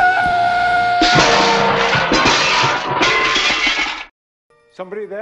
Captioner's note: crashing sounds